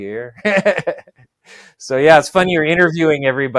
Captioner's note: laughs